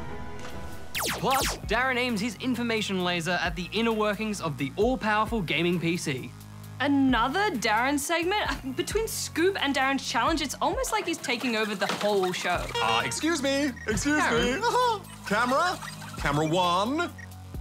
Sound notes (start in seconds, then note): 12.6 horn toots; 13.5 chuckles